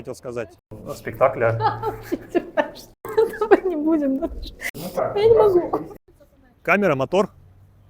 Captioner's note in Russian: смех